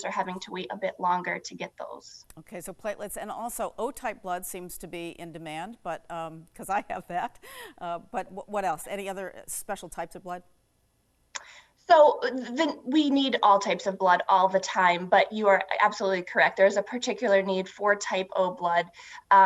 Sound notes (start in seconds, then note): 6.0 laughs